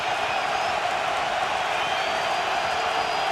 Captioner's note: cheering